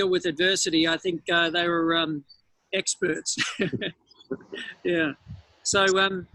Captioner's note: laughs